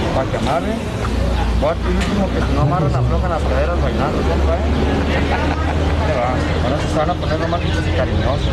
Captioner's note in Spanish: risas